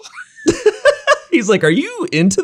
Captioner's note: both laughing